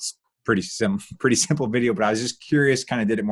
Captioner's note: laughing